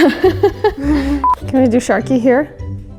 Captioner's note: laughs